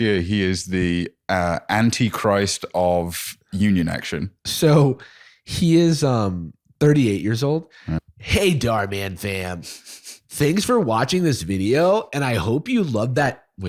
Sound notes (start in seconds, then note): 7.2 imitating Dhar Mann